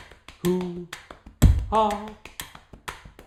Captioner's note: tapping and ticking sound